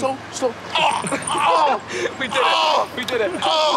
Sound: JJ groaning

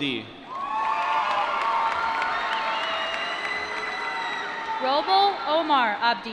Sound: cheering

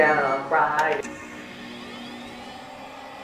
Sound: computer starts up normally

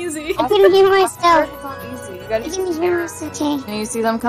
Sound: indistinct overlapping chatter

